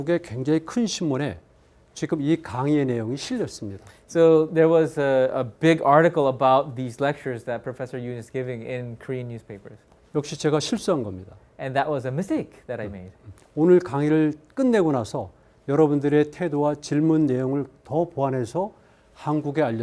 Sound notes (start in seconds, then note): 0.0 speaking in Korean; 10.2 speaking in Korean; 13.7 speaking in Korean